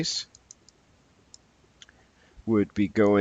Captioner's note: mouse clicking